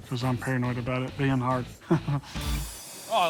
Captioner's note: chuckles